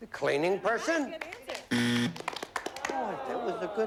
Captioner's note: buzzer